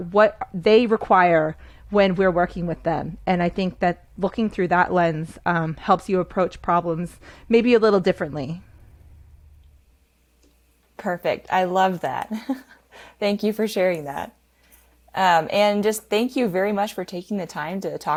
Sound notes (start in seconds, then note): 12.6 laughs